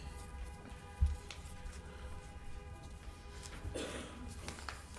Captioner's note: horns blaring